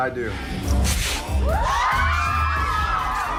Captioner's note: pants ripping; girls scream